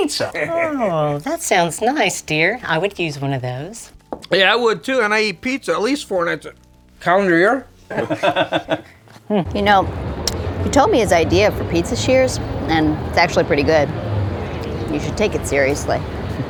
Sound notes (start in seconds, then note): 7.9 laughing